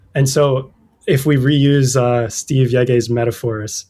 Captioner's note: uh